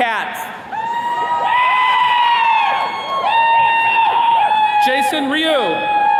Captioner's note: attendees cheering